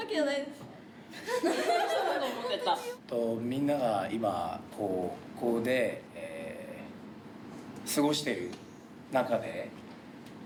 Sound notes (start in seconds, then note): 1.9 speaking in foreign language